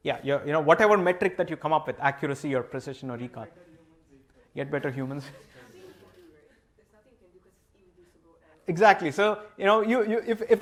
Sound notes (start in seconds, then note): 5.2 laughter